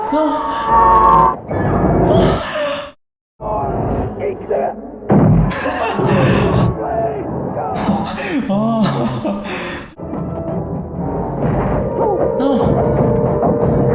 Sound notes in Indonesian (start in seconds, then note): 0.0 Jeritan; 5.5 Berteriak